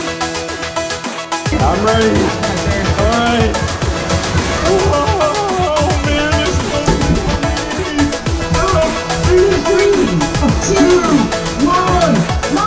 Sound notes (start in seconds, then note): 4.7 exclaiming